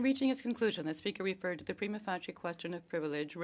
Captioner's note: speaking French